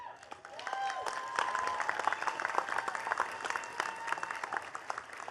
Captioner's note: attendees cheering and clapping